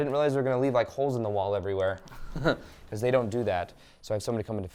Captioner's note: chuckles